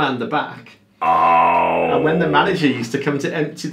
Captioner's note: exclaiming